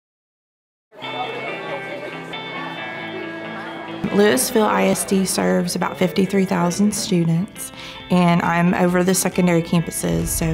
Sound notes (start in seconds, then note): 0.9 light energetic music; 2.5 student chatter